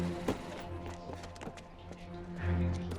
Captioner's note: footstep